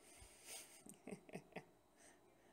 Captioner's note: chuckle